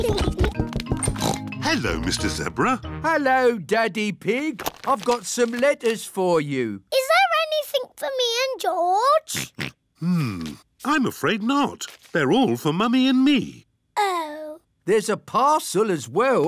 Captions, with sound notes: (OINKS) Hello, Mr. Zebra. Hello, Daddy Pig. I've got some letters for you. -Is there anything for me and George? -(OINKS) Hmm. I'm afraid not. They're all for Mummy and me. -Oh. -There's a parcel as well.